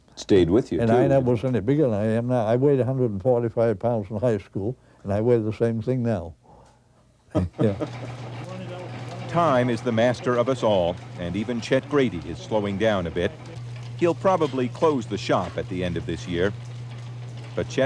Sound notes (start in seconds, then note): 7.3 Don chuckles; 8.6 machine hums